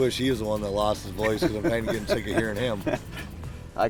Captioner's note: laughter